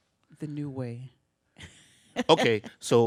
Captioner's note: laughs